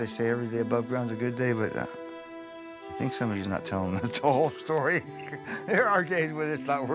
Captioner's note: laughs